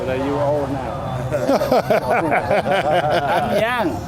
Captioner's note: laughing